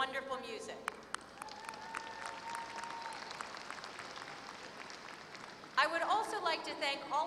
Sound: applause

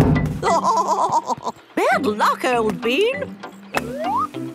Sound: laughing

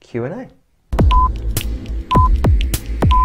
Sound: ticking of a clock

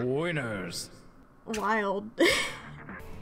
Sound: chuckles

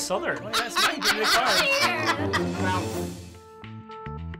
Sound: laughter

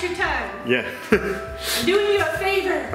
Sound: laughs

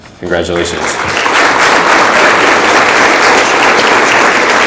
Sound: audience applauds

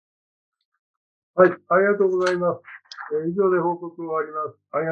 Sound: speaking japanese

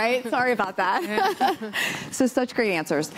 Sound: laughter

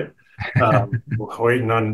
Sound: chuckling

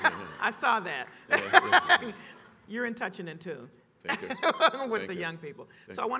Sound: laughs

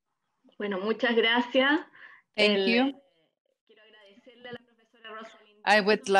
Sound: speaking foreign language

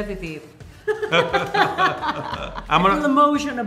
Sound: both laugh

